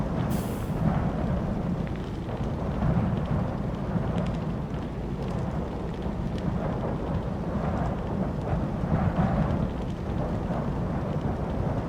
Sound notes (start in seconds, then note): 0.6 fire crackling